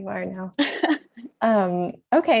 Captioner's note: laughs